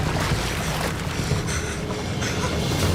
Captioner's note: breathes heavily